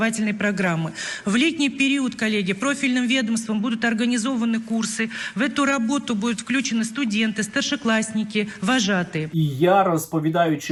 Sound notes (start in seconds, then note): 2.5 russian language